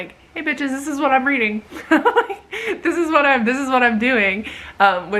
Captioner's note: giggles